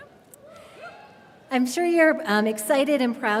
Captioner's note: audience cheering